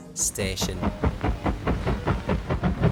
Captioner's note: stereo sound of Steam Train passing